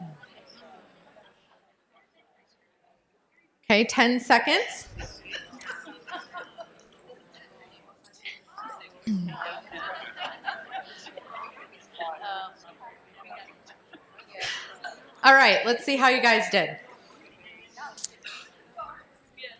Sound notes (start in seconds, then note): 5.1 pause